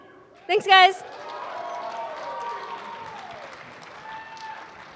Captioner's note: applause